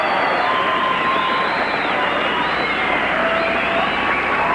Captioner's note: audience applauding and cheering